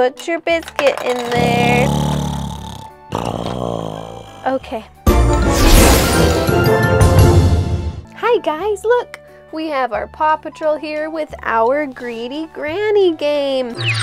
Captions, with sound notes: Put your biscuit in there. (loud snoring) Okay. (playful music) Hi guys, look. We have our Paw Patrol here with our Greedy Granny game.